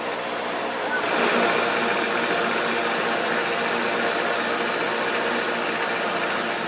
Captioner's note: engine Rumble